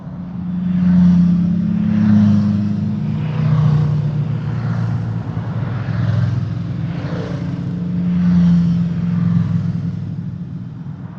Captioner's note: motorcycle tones